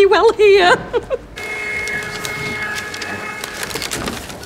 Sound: receipt printing

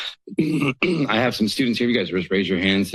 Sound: clears throat

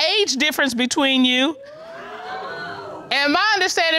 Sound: audience exclaiming

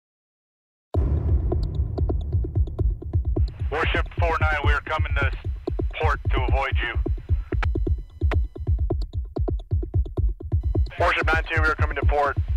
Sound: speaker On Radio

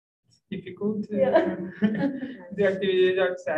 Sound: group chuckling

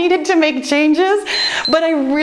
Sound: timer beeps

